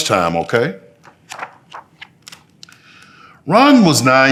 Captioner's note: pages rustling